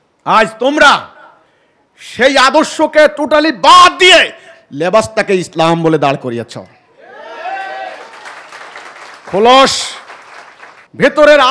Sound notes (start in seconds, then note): 7.9 clapping